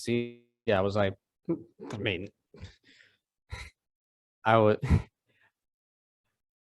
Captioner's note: chuckles